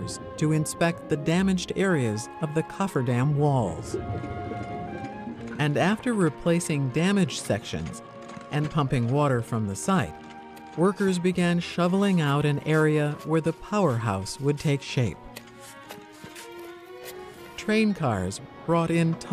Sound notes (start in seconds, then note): 3.6 bubbles emerge from deep water; 15.3 shoveling